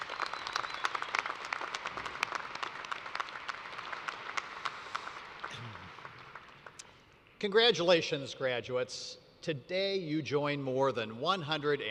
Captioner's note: applause